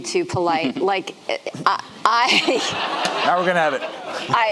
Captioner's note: audience laughing